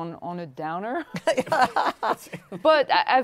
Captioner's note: laughter